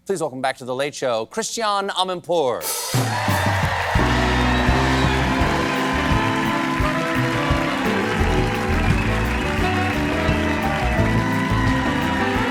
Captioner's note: cheers and applause